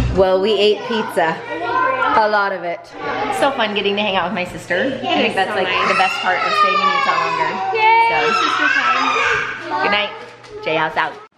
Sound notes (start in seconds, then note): 8.1 screaming